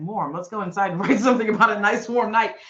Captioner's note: chuckling